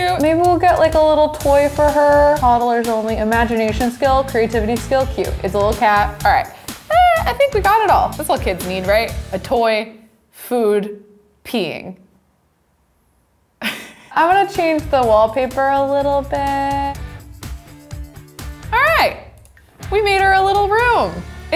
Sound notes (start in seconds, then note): 13.6 chuckles; 17.0 soft music